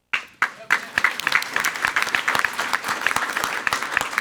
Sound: everyone applauding

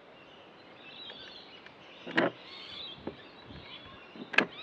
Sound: birds chirping

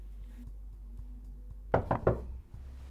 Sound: knock on door

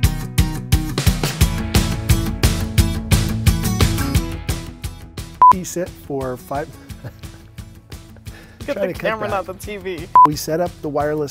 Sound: laugh

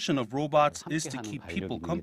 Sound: Korean

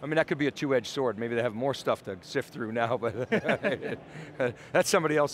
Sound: he laughs

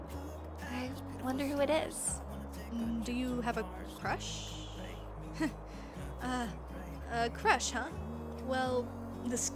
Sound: chuckles

